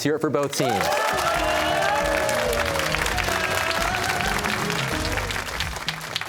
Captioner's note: cheers and applause